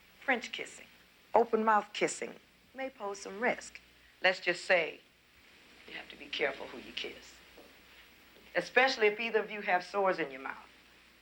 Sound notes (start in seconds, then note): none